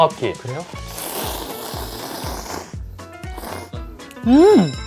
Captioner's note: slurp